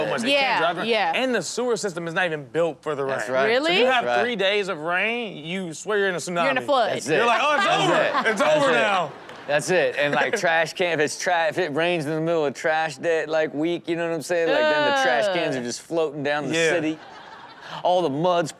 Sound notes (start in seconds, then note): 7.2 audience laughs; 16.6 audience laughs